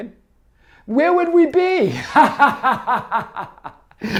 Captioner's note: laughs